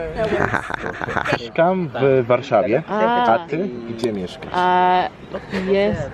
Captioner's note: in Polish